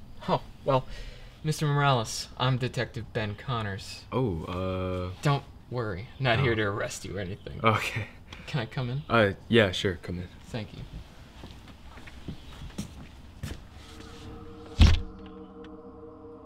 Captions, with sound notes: Oh! Well... Mr. Morales... I'm Detective Ben Connors Oh... uh... Don't worry, I'm not here to arrest you or anything. (JAKE chuckles lightly) Can I come in? Uh.. yeah, sure. Come in. Thank you.